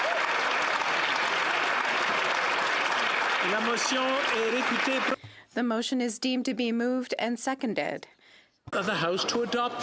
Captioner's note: applause